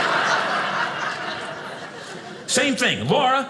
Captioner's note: audience laughing